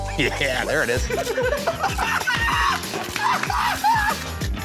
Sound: laughter

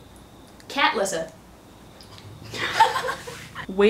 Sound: laugh

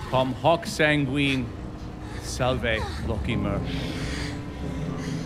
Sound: everyone speaks in foreign language; Marcus speaks in foreign language; servants gasping

